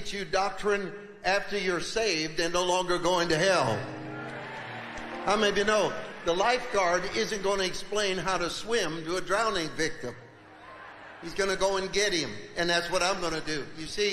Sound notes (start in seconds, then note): 3.6 congregation cheering